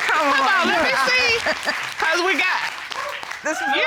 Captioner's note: audience applauding